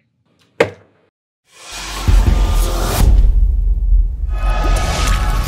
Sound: stamp striking; air whooshing

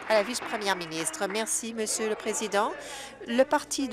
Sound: applause

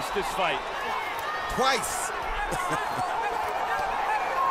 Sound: laughs

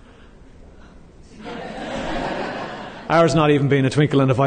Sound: laughing

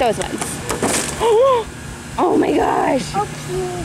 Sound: gasps

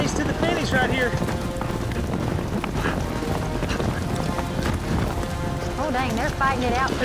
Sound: galloping horses

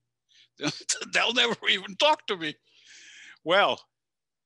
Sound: chuckles

